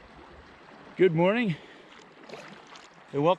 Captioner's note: water flowing